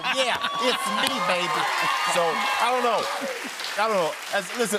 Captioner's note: cheers and applause